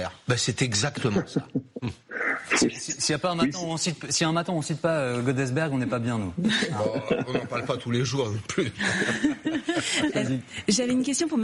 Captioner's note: laughs